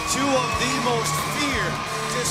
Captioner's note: crowd cheering